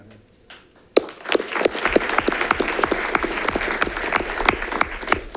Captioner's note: audience applauding